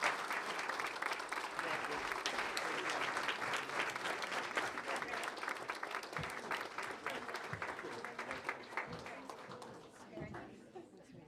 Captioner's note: applause